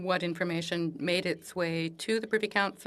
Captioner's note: speaking French